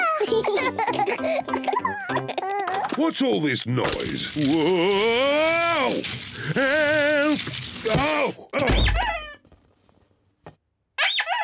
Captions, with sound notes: (BOTH GIGGLE) What's all this noise? Whoa! Help! Ow! (RUBBER DUCKY SQUEAKS)